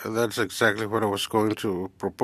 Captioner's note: speaking FRENCH